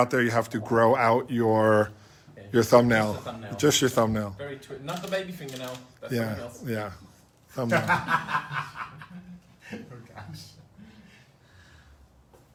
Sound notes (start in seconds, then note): 7.6 laughs